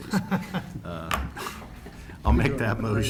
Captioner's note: laughter